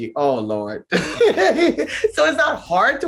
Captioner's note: Shangie laughs